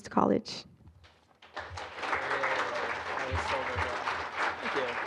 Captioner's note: applause